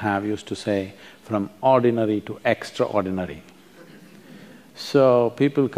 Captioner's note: few laugh